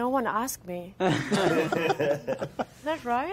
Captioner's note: all laughing